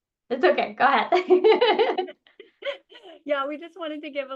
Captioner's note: laughs